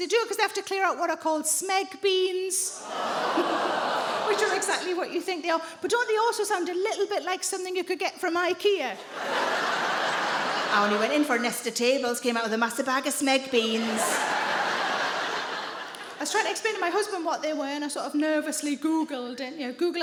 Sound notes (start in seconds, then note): 2.8 audience gasping; 9.0 audience laughing; 13.7 audience laughing